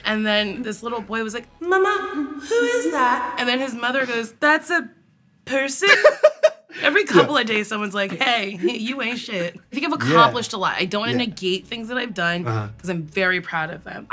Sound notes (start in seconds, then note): 5.8 laughs